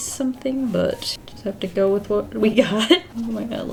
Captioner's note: laughs